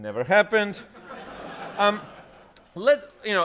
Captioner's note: laughter